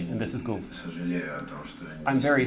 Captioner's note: speaking russian